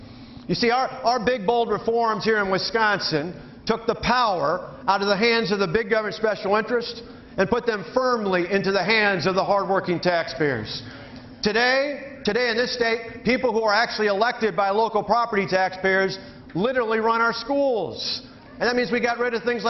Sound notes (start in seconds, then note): none